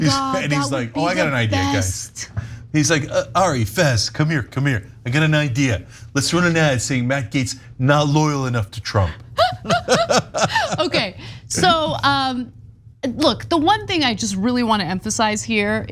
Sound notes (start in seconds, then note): 9.4 laugh